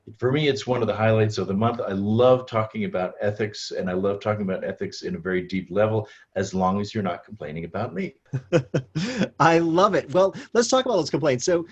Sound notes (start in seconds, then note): 8.3 laughs